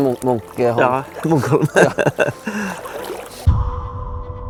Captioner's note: giggle